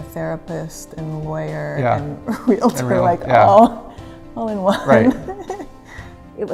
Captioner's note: laughs